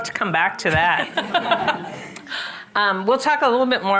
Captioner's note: all laughing